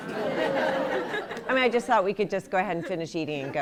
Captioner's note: laughter